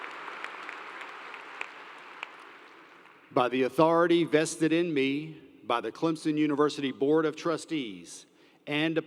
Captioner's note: applause